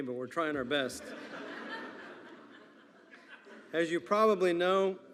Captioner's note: attendees laughing